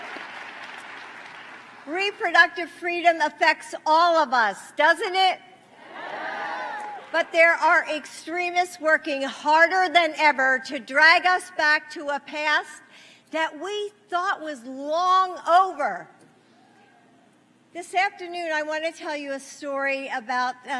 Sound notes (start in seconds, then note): 4.6 applause